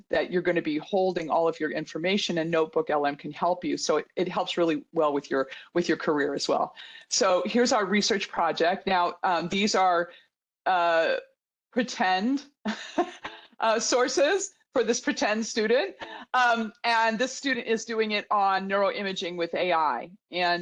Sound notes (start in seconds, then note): 12.7 chuckles